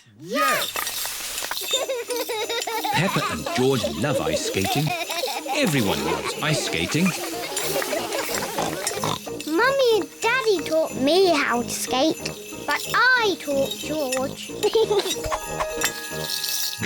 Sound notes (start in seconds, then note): 1.8 laughs; 8.9 snorts; 14.5 giggles